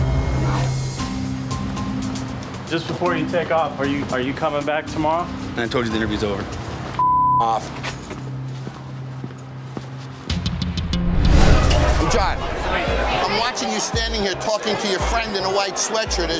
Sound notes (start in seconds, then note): 0.0 suspenseful music; 7.0 beep; 10.2 rhythmic music